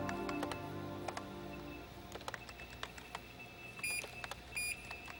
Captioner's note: typing